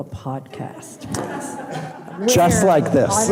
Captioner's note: audience laughing